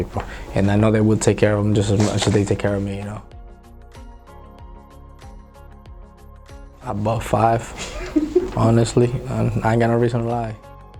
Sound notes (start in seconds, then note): 3.4 gentle music; 7.7 laughing; 10.7 gentle music